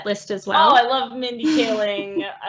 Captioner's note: laughs